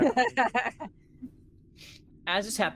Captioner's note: laughter